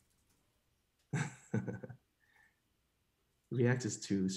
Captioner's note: chuckles